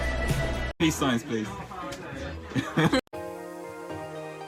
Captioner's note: laughs